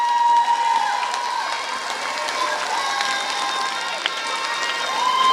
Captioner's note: applause